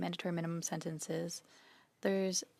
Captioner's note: speaking French